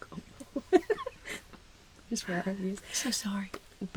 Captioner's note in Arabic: يضحك ... يجعل الخنازير ضجيجًا ... يضحك أكثر